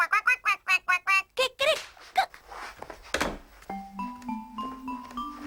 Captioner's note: clucks; quacks